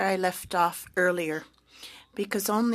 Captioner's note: speaking French